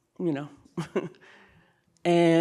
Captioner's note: chuckling